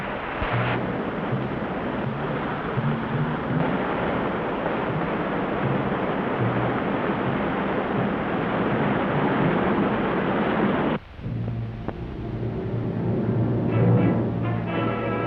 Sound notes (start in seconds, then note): 0.8 boat whirs; 11.2 dramatic orchestral music